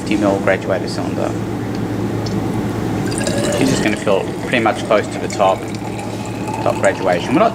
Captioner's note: starts pouring water